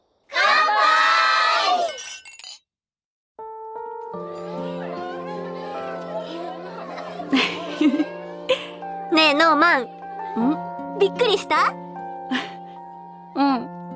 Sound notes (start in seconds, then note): 7.5 chuckles